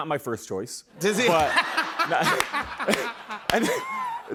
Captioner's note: laughs